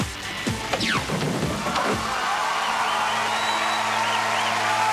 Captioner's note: applause